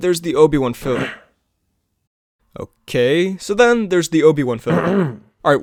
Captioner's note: cough cough; cough